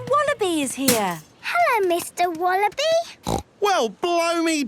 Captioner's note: snorting